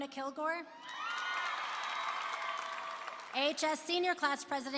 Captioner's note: applause and cheering